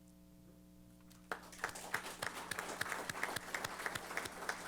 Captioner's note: applause